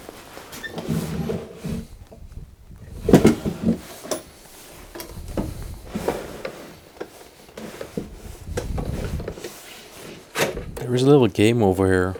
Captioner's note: opening and shutting drawers